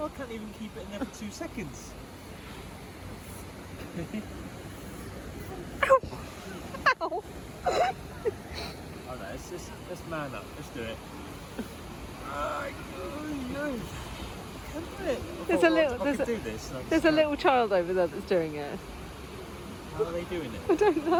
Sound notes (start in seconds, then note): 7.6 laughs; 13.3 winces